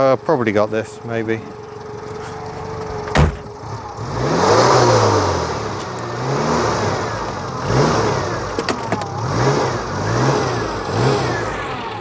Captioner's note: flat four aircooled engine noises